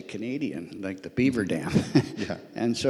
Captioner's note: laughs